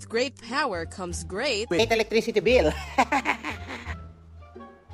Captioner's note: filipino Accent; nervous Laughing